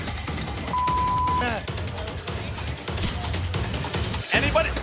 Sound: beeping

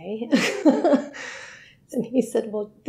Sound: she laughs

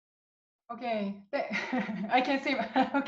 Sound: laughs

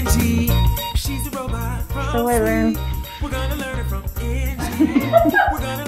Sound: laugh

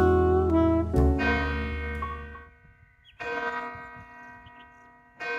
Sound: clock bell striking four times

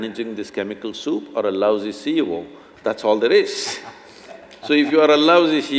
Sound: laughs

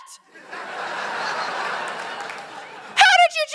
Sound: laughter

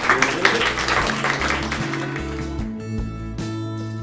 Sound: audience applauses and credit music plays

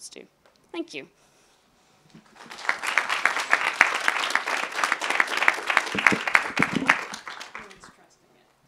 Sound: applause

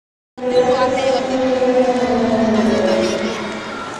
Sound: dinosaur growling

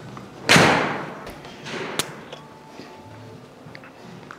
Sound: ball thuds

